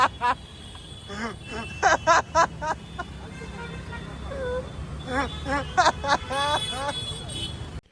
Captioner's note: loud laughing